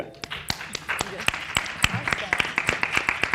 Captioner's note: people clapping